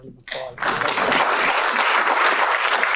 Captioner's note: applause